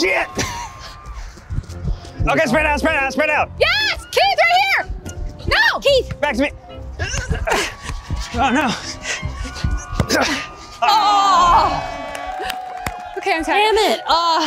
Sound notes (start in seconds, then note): 10.8 cheers